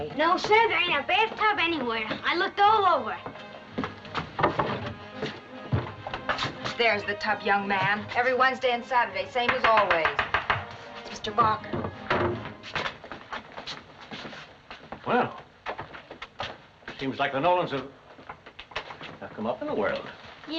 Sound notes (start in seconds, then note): 9.4 knock at door